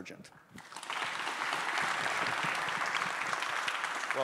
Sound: audience applauding

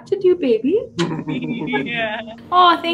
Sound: laughs

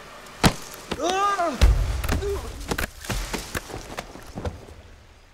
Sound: Simon yelling; muffled thumping

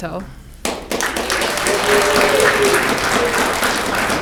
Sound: audience clapping

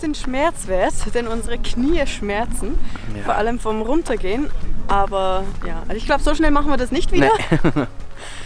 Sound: laughing

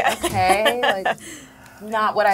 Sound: laughs

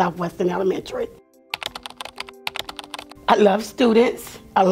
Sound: typing on keyboard

